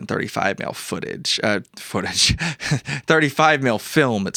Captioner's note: laughs